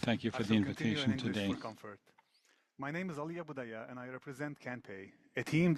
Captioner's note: speaking french